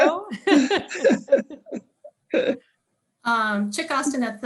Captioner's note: both chuckle